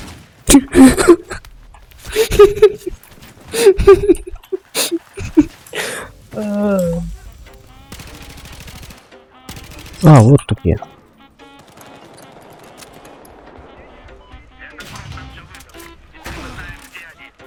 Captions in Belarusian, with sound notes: *Смех* *Смех* *Смех* Ааааа. Ах, вось ты дзе.